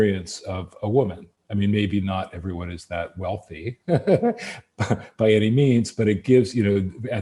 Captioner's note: laughs